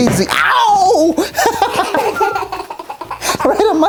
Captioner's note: giggling